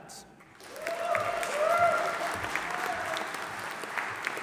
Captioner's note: audience applauding